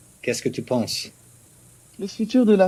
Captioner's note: speaks in French